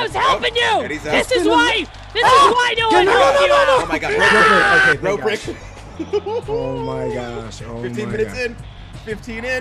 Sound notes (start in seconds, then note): 5.4 laugh